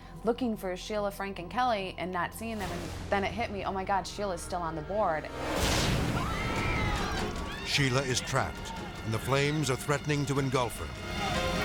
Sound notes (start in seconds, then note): 5.5 trick exploding; 6.0 crowd screaming